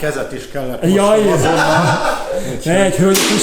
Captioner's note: laugh